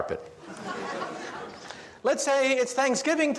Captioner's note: audience laughs